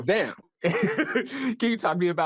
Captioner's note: laughs